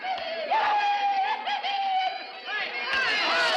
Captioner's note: whooping and hollering